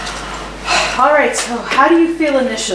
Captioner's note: sighs deeply